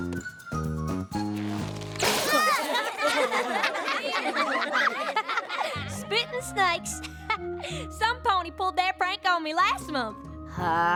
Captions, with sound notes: [ LAUGHTER ] SPITTIN' SNAKES. [ CHUCKLES ] SOMEPONY PULLED THAT PRANK ON ME LAST MONTH.